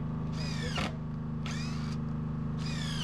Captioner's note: drilling